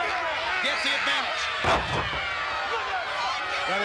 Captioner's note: body thudding